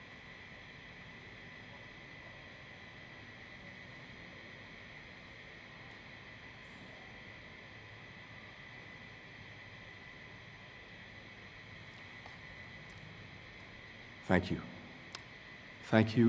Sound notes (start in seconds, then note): 0.6 A moment of silence was observed